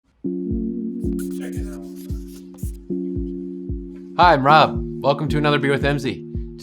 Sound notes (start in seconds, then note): 1.0 upbeat music; 1.0 pencil scratches